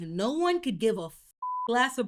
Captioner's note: beep